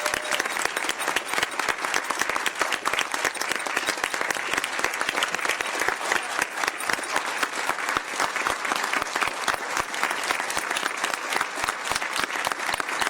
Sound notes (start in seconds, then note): 0.0 applause; 1.7 cheers and applause